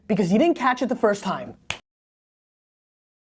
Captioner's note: fingers snapping